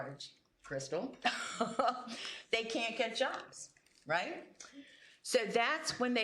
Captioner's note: laughs